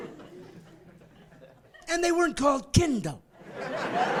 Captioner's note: laughing